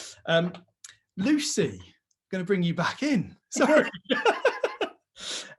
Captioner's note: laughs